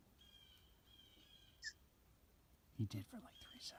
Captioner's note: blue jays calling